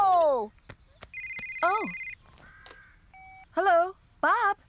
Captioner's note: phone Rings